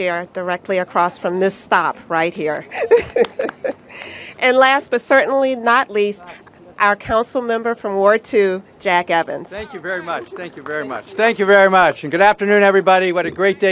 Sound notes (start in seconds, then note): 2.7 laughter; 11.6 applause